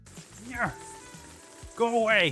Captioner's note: struggling